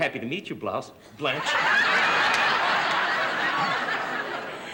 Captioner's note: laughter